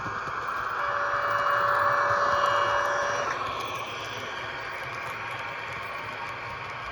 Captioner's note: alarm